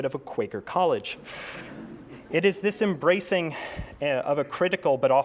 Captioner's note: laugh